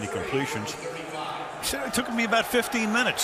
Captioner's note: stadium announcements